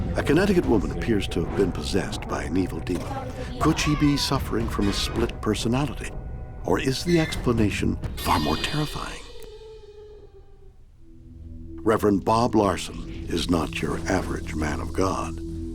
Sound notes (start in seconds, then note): 10.0 cries out